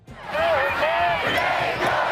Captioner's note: crowd